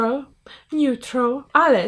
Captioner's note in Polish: z akcentem amerykańskim